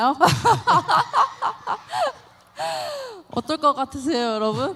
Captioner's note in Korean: 웃음